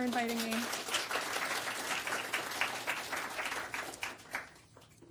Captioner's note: audience applauding